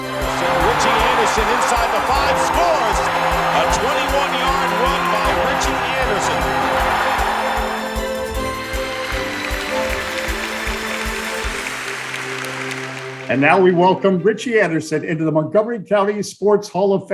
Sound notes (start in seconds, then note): 11.2 applause